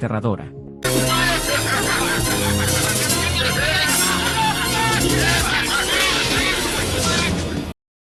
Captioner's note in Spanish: rie maquiavelicamente